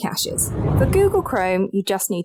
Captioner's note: air whooshing